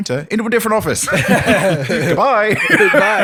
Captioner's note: laughter